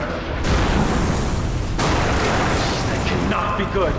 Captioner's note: explosion